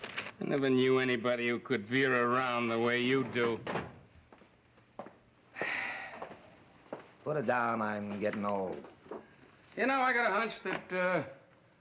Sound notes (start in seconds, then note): 5.6 Manny sighs